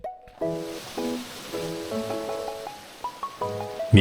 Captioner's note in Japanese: 水が流れる音